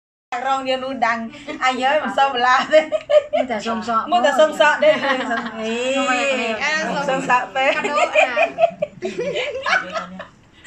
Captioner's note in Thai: เสียงหัวเราะ